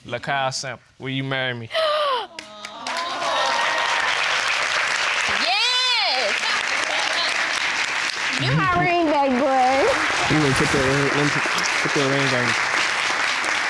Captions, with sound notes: Dymon Samples, will you marry me? (GASPING) (AUDIENCE EXCLAIM) Yes! (AUDIENCE LAUGHING) You're my ring back boy! Let me fit that ring on you.